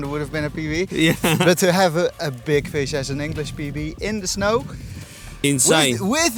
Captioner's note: laughs